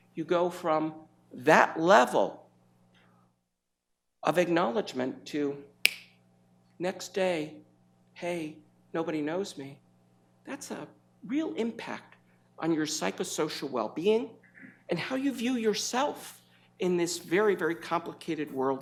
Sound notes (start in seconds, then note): 5.8 snaps fingers